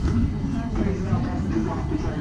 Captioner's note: people chattering